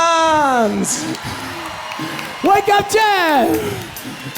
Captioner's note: applause